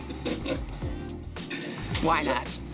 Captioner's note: laughing